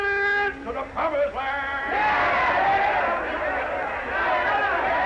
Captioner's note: all cheering